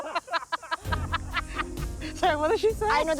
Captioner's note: laughter; cackles